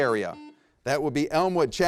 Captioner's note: buzzer rings